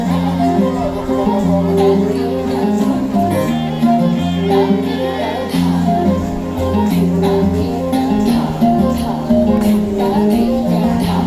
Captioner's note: cheering/Applause; speaks in Hindi - not transcribed